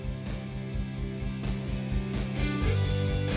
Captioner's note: mouthing